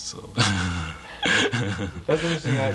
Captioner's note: laughter